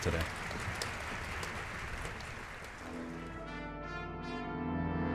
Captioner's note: applause